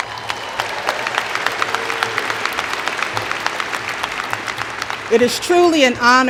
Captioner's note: cheers and Applause